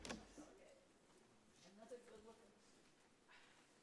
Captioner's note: background chatter